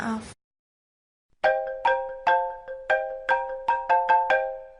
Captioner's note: phone ringing